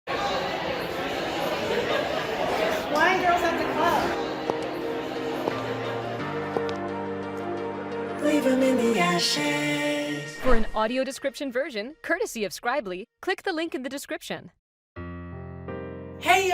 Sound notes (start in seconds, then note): 4.4 upbeat electronic music; 5.4 sound of clicking heels; 15.0 soft piano